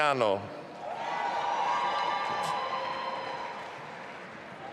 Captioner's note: audience applauding